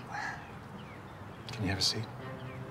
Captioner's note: Travis sighs